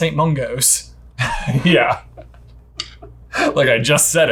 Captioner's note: laughs